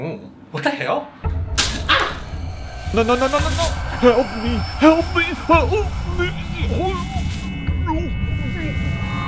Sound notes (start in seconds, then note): 1.2 grinding noise; 2.7 electrical sparks